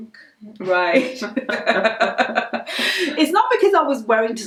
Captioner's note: laughs